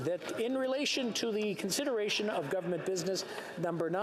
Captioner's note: speaking french